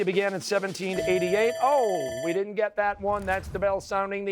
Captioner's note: bell ringing